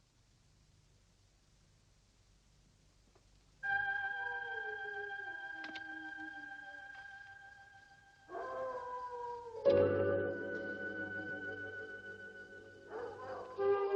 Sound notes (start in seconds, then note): 3.6 light dramatic music; 3.8 wolf howling